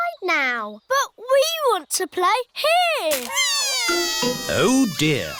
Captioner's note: crying